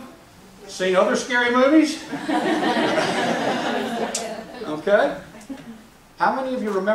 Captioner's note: laughs